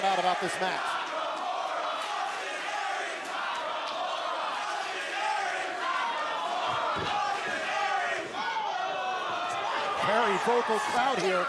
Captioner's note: crowd cheering